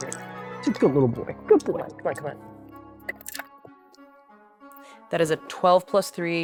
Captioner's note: dice rattling